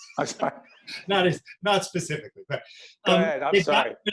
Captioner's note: laughing